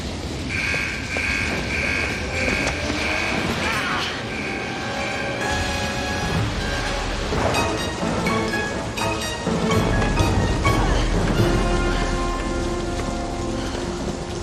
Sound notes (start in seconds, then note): 1.6 alarm blares; 2.7 tense music